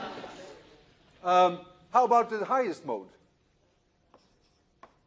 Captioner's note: laughter